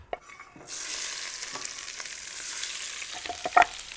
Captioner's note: pan sizzling